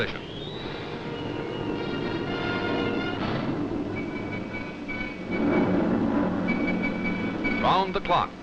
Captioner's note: aircraft noise